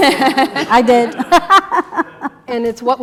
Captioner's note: laugh